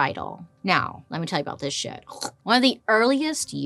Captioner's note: vocalizes